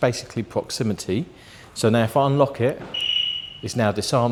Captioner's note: beep